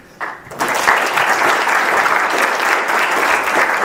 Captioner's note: audience applause